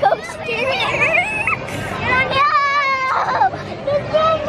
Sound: screaming excitedly

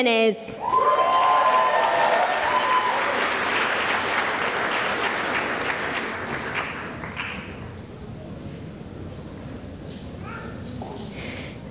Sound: cheering and applause

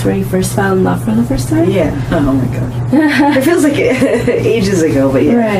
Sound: laughs

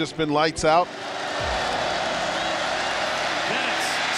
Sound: crowd cheers

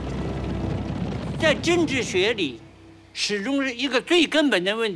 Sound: speaking Chinese

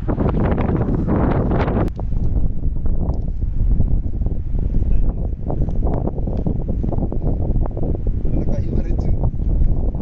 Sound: wind

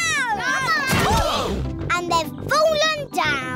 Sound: all groan

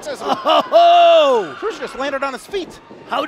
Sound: laughs

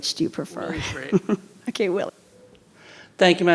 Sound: laughs

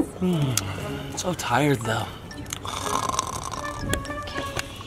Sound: snores

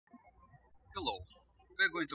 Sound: birds chirping

